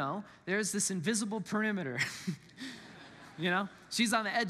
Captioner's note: congregants laugh